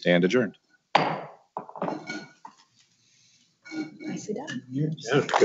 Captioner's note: gavel bangs